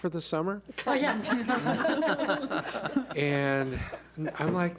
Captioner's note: laughing